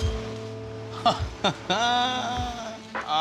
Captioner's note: laughs